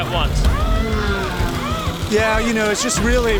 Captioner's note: tools whirring